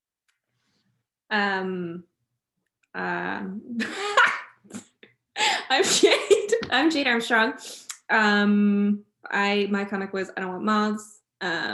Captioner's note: laughter